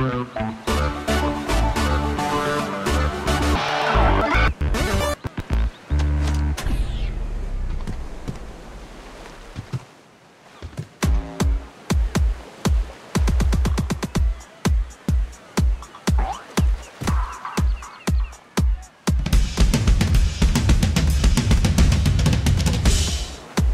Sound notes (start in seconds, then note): 11.0 beating sound; 19.1 drum sound